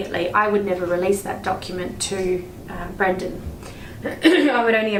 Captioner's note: coughs